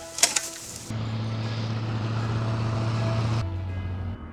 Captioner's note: whirring